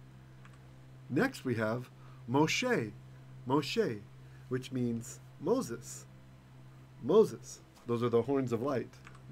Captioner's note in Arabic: بالعبرية